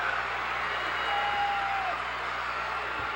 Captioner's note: cheers